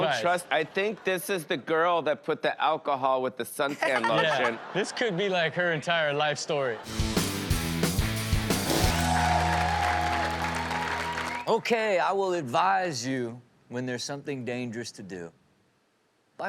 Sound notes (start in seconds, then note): 8.8 cheering